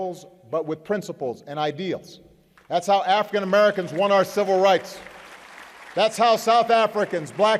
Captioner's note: applause